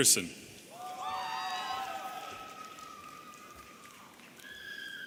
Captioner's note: audience cheering